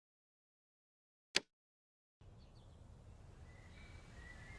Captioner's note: birds chirping